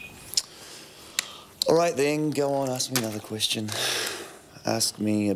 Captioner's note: sighs